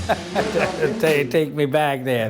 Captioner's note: laughs